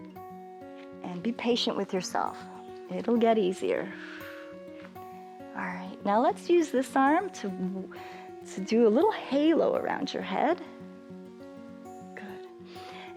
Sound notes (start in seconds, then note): 3.8 exhales